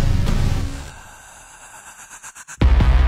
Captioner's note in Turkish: Foxy'nin nefes sesleri